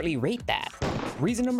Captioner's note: gunshot